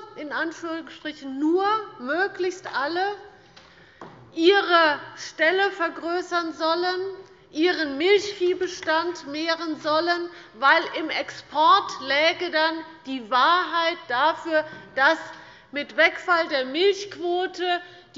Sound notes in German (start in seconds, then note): none